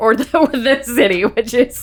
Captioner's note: laughing